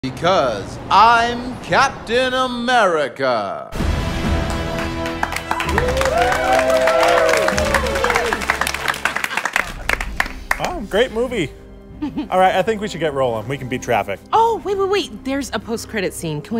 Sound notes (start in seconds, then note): 3.7 credit Music; 8.2 applause